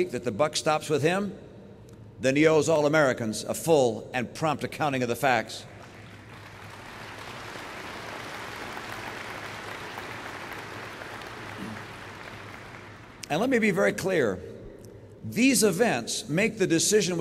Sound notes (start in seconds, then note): 5.7 applause